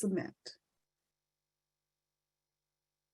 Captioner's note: silence